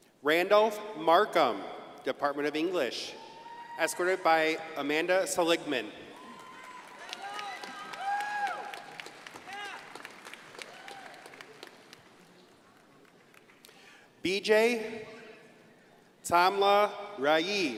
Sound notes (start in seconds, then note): 6.2 audience applauding